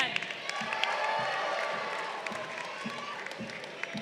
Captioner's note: crowd cheering